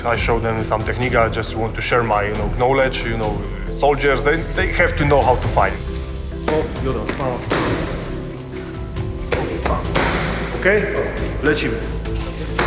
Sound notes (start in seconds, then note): 6.2 strikes landing with a thud; 6.5 speaking Polish